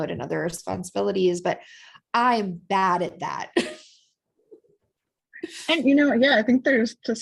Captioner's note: laughter